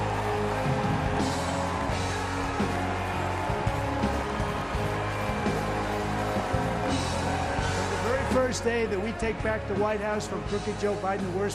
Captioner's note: cheering